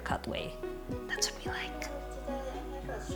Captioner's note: whispers